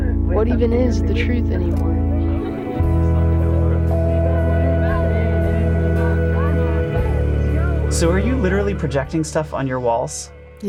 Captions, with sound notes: What even is the truth anymore? (nostalgic music) (background chatter) - So are you literally projecting stuff on your walls?